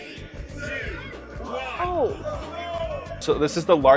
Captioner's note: crowd